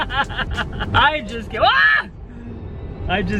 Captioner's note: laughing; shouts